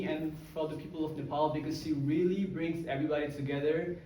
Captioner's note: none